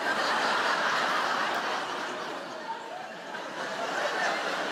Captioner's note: audience laughing